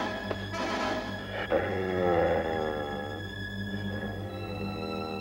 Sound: Shep growling

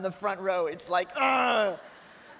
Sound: groans; laughter

